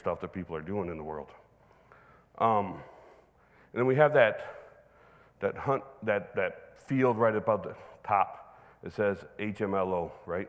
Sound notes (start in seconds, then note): none